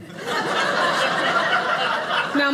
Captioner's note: audience laughing